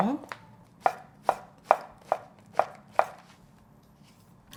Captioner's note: knife chopping